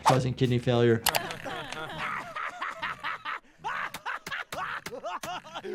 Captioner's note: characters laughing